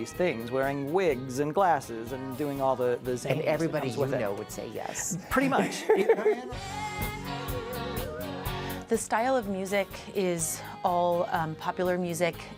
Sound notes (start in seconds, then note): 4.8 laughing